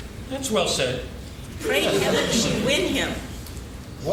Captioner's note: laughing